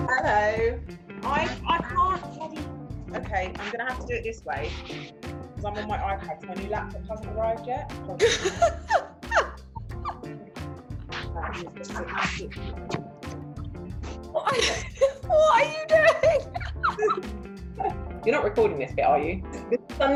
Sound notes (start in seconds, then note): 9.2 laughing; 11.4 fumbling around; 16.5 laughing